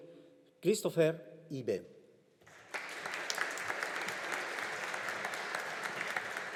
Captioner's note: audience applauding